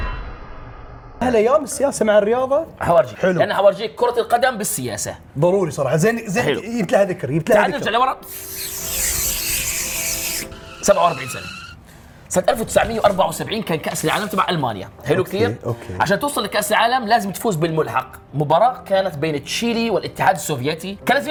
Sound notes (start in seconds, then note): 8.2 chupse